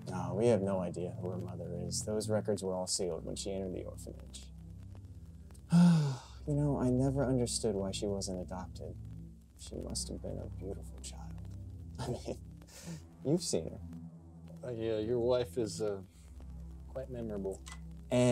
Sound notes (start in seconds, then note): 5.6 sighs